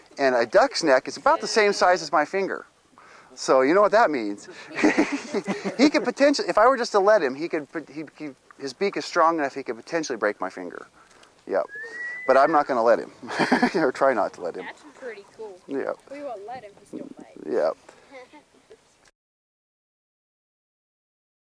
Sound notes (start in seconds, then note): 13.2 laughter; 15.9 silence